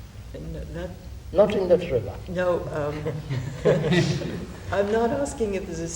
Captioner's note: laughter